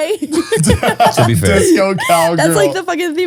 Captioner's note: all laughing